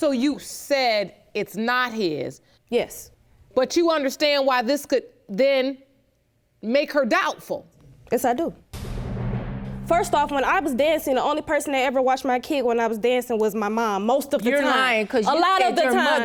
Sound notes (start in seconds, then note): none